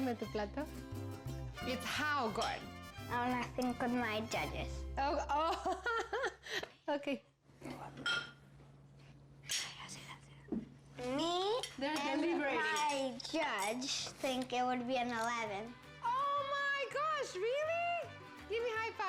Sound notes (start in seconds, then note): 0.2 speaking spanish; 8.5 whispering